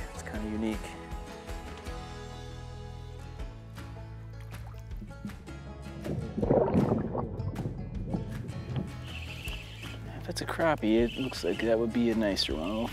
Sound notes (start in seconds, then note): 4.2 water splashing gently; 6.0 water rumbling